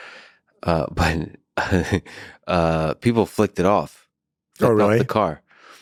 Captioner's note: laughs